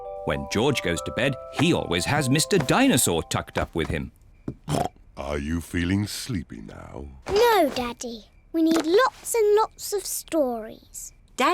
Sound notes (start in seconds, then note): 4.6 snorts